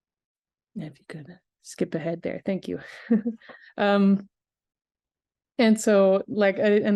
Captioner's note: chuckles